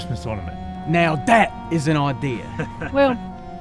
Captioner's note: chuckling